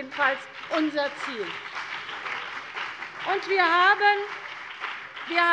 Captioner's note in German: Beifall CDU und BÜNDNIS 90/DIE GRÜNEN